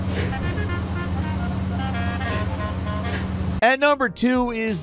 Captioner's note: engine rumbling